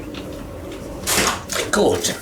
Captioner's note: door opens